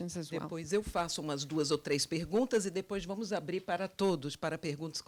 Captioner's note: translator speaking Portuguese